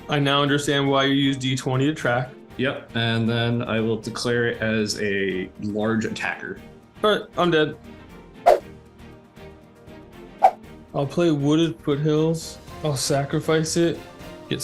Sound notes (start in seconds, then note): 8.4 air whooshing; 9.4 dramatic music; 10.4 air whooshing